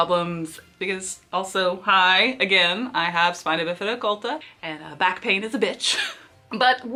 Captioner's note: laughs